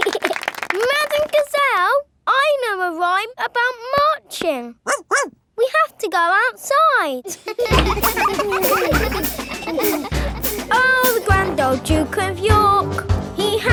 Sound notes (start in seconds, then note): 0.0 laughing and clapping; 4.8 barks; 7.2 children laughing